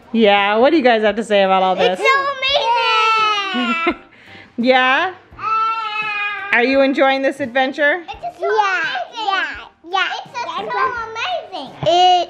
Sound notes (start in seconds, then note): 5.5 laughs